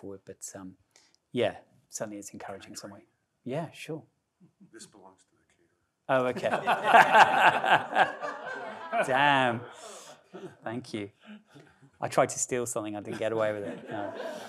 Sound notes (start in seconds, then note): 6.2 all laughing loudly